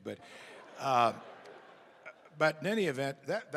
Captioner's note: laughter